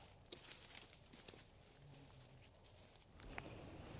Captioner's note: leaves crunching; wind blowing